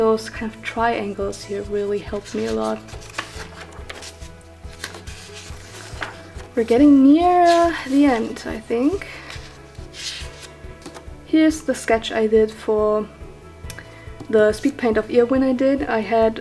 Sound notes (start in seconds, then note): none